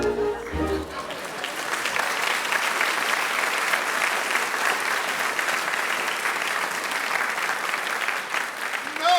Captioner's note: applause